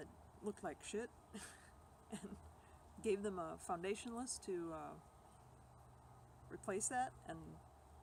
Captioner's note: laughs